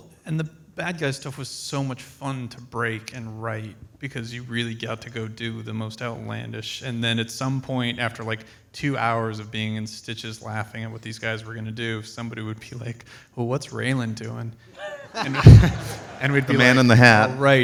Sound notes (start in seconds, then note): 14.9 audience laughs